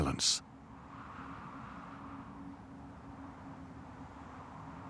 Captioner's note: wind howls